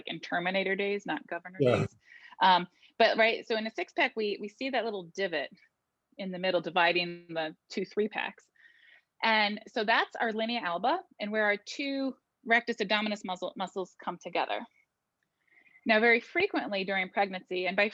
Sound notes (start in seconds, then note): 1.6 laughing